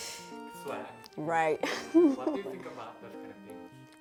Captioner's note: laughter